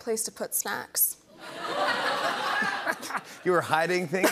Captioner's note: laughter